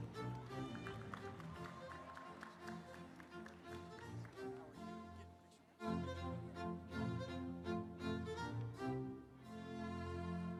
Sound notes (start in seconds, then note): 0.0 audience applauding; 0.0 instrumental music